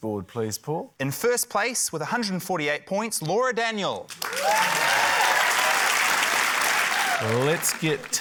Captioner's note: cheering, applause